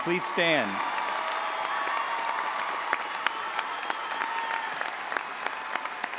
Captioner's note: all applauding and audience cheering